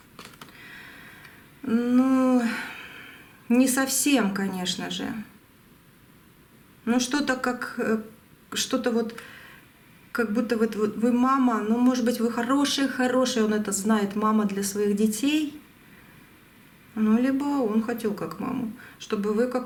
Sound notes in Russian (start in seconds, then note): 2.3 вздыхает; 2.4 тяжело вздыхает